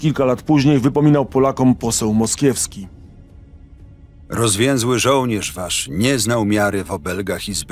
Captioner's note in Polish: Lektor